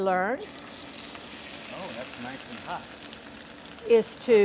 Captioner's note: searing sound